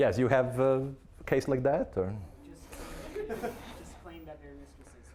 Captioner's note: audience laughing